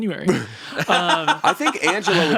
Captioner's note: laughs